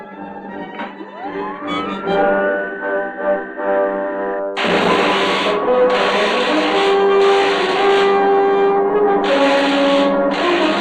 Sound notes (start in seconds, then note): 1.1 machine whirring; 4.5 electricity crackling